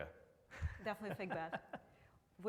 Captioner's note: laughs